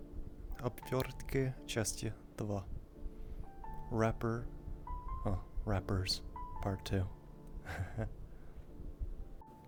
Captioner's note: nervous laughing